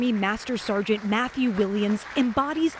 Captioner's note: applause